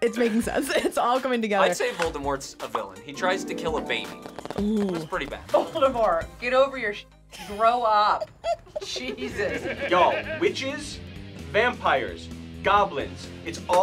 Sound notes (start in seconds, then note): 8.1 group laughs